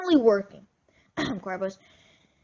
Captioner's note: cough